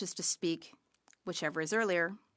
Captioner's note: speaking French